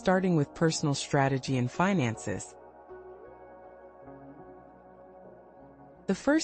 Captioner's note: pause